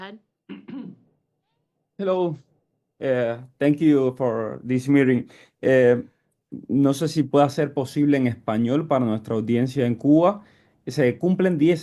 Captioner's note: in Spanish